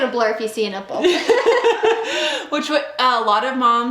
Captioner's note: laughing